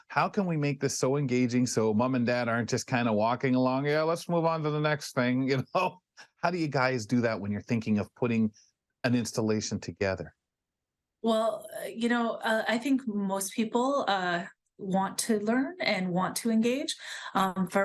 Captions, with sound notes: how can we make this so engaging so mom and dad aren't just kind of walking along, yeah, let's move on to the next thing, you know? [LAUGHS] How do you guys do that when you're thinking of putting an installation together? Well, you know, I think most people want to learn and want to engage.